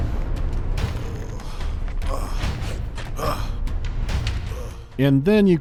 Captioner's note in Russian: грозные барабаны; ошарашенное пыхтение Эбботта